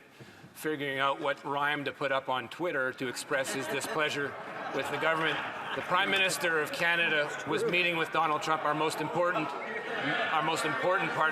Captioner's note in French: voix de l'interprète